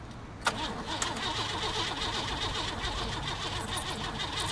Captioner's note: car stalls